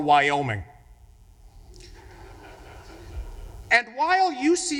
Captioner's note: audience laughing